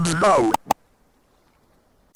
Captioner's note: clicky click